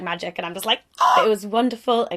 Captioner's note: excitedly screams